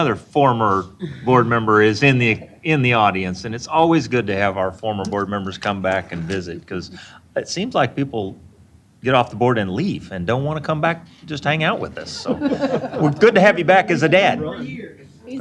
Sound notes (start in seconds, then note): 12.0 chuckling